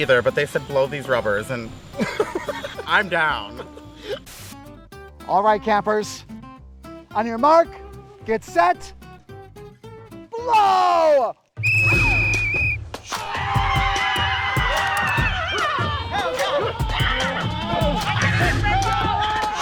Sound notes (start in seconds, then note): 2.0 laughing; 11.6 whistle blows; 13.0 campers screaming